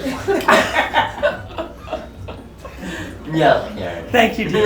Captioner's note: laughing